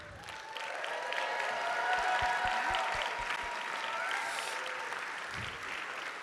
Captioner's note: audience cheering; audience applauding